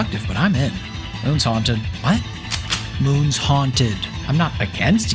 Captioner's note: gun cock